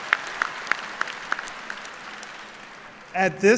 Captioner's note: cheers and applause